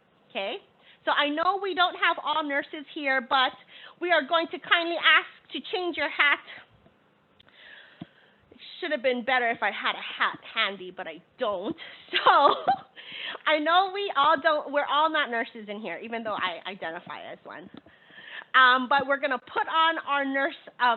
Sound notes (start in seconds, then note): 12.2 laughing